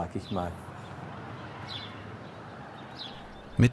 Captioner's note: birds chirping